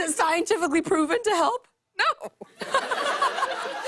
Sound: laughter

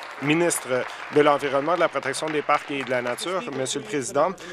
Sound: applause

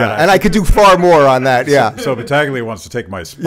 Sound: laughs in background

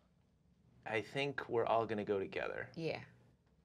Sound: none

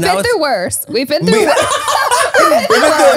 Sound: everyone laughs

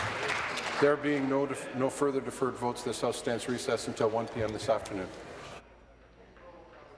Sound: applause

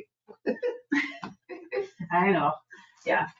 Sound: people chuckle

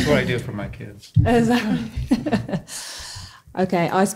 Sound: laughs

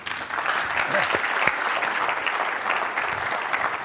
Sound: audience claps

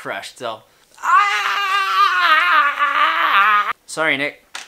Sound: screaming

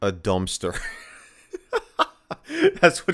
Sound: laughing

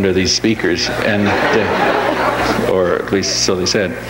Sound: audience laughs

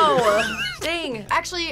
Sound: laughs

